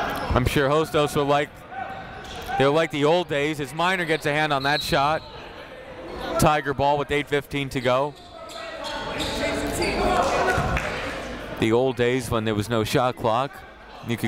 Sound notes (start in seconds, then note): 4.1 whistle; 8.5 chatter